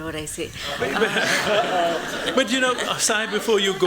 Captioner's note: laughter